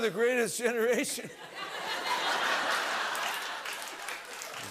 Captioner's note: laughter